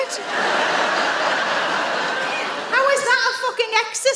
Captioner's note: audience laughs